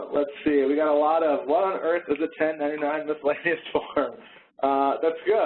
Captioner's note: laughs